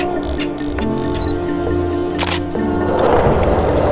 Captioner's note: camera beeps; camera clicks; camera winds; camera clicks